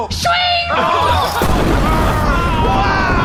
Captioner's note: audience cheering; screaming explosion